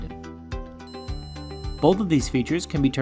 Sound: Little Candy Corn 2 beeping

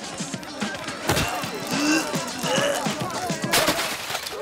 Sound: choking

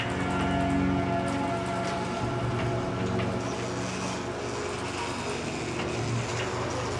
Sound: dark music; garage door buzzing

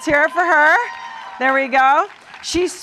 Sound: cheering and applause

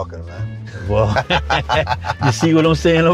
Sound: both laugh

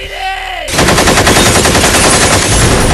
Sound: guns firing

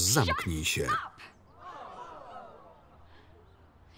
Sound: crowd oh's

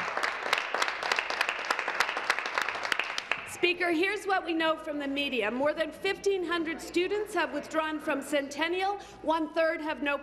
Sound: applause

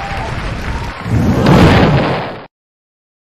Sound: explosion, crowd gasps; burning

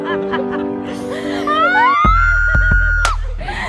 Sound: loud laughter; happy loud collective scream

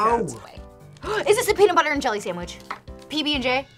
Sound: gasps

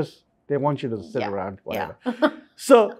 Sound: chuckles

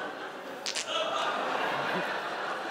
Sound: laughter; spits water

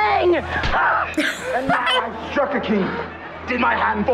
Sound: laughs

